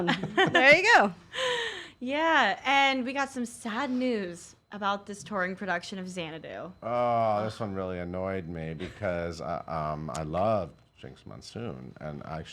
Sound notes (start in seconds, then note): 7.0 groans